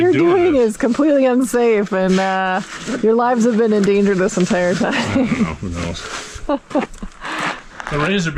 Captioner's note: laughing